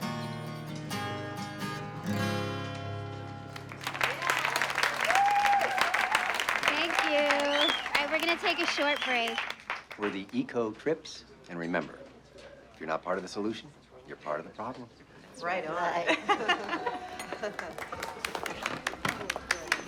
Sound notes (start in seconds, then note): 3.4 clapping and cheering; 16.0 laughs; 17.2 clapping